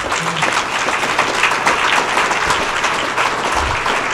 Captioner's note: applause